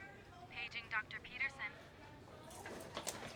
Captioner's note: woman Over Speaker